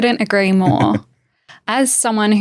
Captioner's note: chuckles